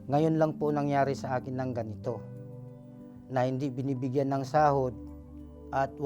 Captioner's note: speaking foreign language